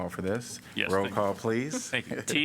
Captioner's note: laughter